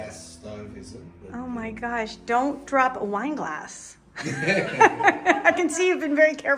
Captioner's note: laughing